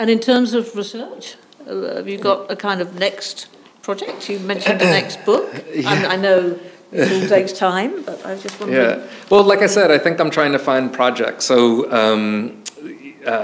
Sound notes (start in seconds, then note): 5.3 chuckles